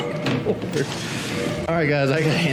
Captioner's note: laughs